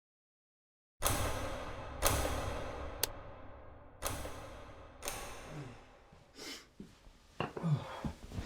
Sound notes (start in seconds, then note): 1.6 lights turning on dramatically